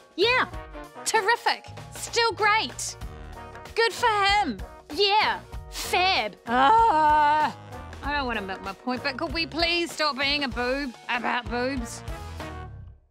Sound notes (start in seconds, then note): 6.6 groans